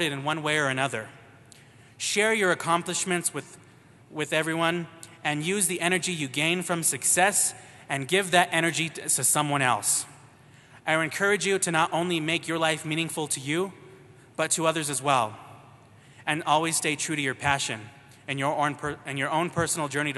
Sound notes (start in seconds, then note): none